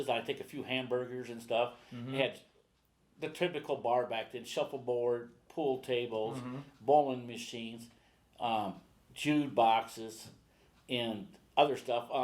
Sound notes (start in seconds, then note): none